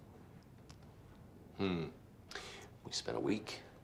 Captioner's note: finger rustling; House grunting